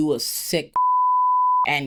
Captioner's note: beep